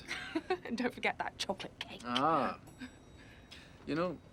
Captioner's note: laughs